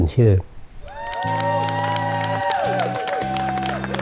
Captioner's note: cheering. Clapping